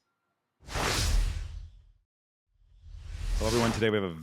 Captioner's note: logo whooshes